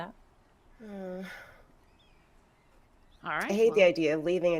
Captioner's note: person sighing